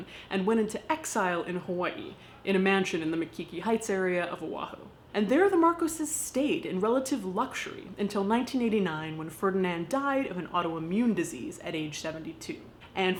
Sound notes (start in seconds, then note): none